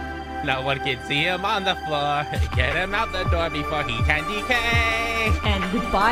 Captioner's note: Marik voice; Marik voice